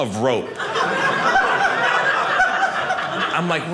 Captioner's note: audience laughing